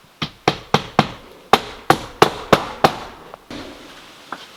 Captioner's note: hammer pounding